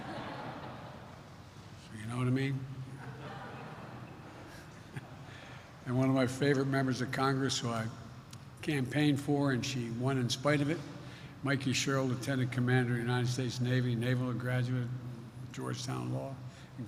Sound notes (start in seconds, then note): 0.2 laughter; 3.0 laughs